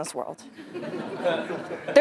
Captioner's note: laugh